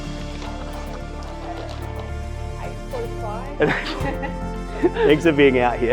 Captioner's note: laugh